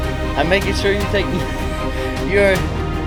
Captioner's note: laughing